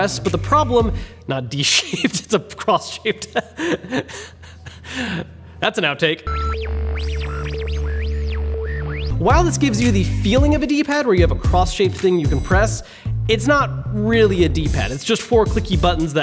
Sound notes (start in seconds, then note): 1.8 laughs; 6.2 electronic beeping and whirring